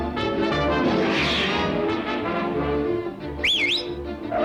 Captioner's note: fast-paced dramatic music; air whooshes; Virgil whistles sharply